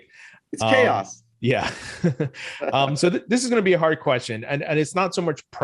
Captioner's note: laughs